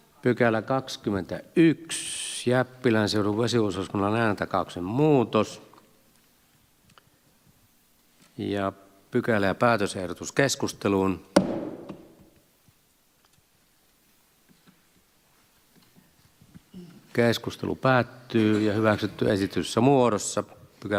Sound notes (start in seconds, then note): 11.4 Nuijan kopautus